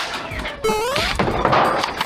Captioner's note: battle sounds continue; boing sound effect